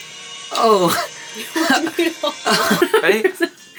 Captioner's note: group laughing